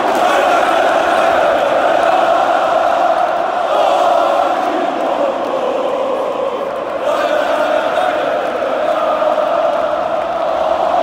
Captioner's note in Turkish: Tezahüratlar atılıyor